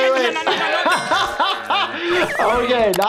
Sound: laughing

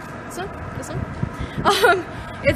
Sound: giggle

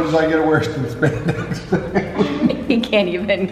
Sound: laughing

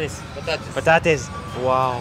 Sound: speaking in foreign language

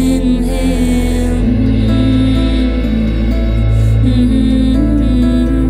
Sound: humming

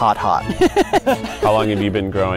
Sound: laughing

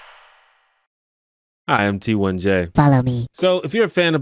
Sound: weird voice

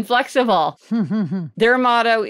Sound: chuckles

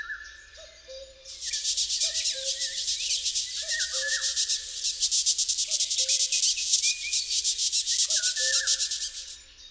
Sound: birds singing; sounds of the Oil Beetle; sounds of nature

